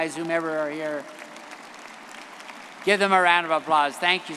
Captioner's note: audience applauding